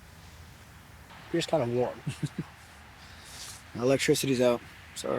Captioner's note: Merle chuckles